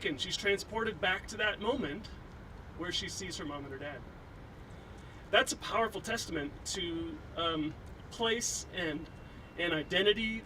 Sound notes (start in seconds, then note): none